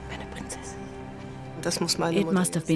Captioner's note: speaks in foreign language